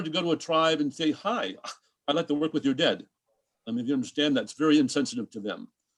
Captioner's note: scoff